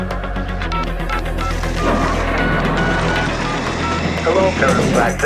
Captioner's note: phone beeping